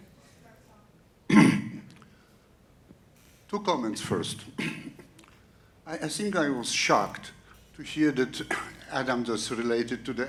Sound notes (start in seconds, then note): 1.3 clears throat